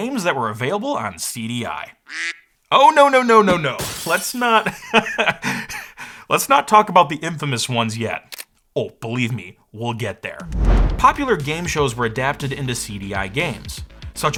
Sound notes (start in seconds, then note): 2.0 soft quacking; 3.7 glass smashing; 4.6 laughs